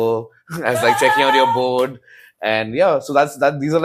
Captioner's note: laughs